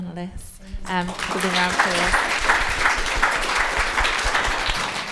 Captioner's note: audience applauding